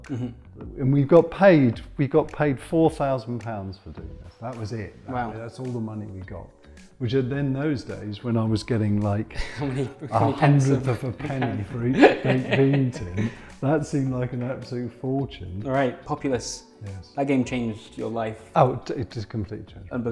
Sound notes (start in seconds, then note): 11.2 laughs